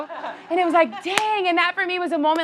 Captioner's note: hands slap